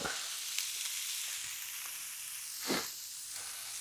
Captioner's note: oil sizzling